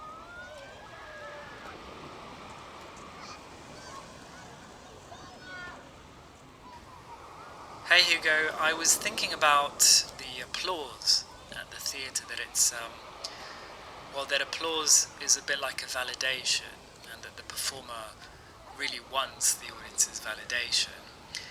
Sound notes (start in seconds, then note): 7.8 augusto, on voicemail recording